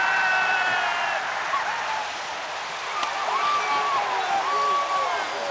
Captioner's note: crowd cheering